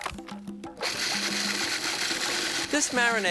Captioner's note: processor whirs